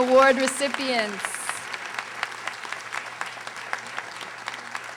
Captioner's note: audience applauding